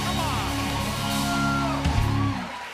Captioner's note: cheers and applause